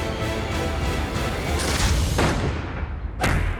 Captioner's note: pistol fires